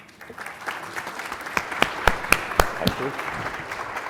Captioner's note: audience clapping